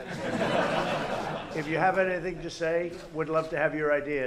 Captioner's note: laughter